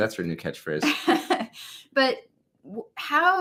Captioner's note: laughs